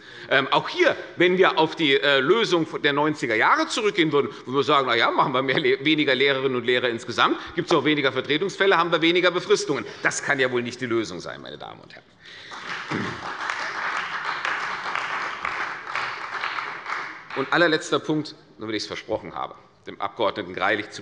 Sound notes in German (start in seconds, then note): 12.4 Beifall bei der CDU